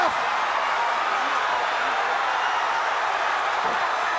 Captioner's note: crowd cheering